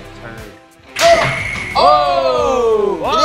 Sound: chili exploding

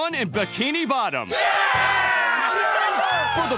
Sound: cheering

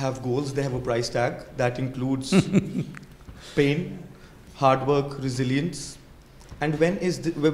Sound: Sadhguru Laughs

